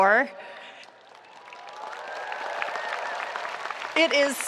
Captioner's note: audience applauding